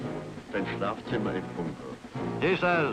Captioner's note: speaking in German